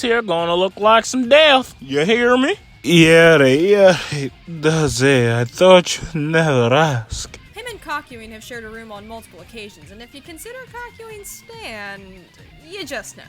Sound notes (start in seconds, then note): 2.8 moaning